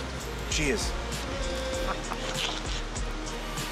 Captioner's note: laughter